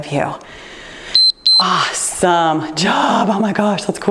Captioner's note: timer beeps